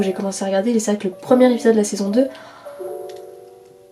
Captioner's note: gasp